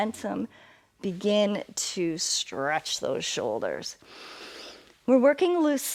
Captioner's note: inhales